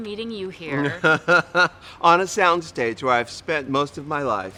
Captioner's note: laughs